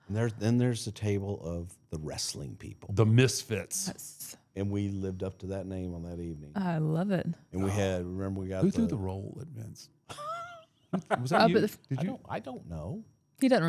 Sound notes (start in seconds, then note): 10.9 laughs